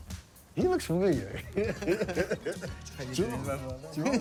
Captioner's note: laughs